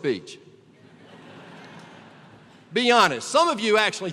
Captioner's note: laughter